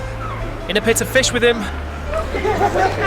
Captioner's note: crowd laughs